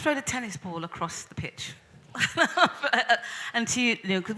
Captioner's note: laughs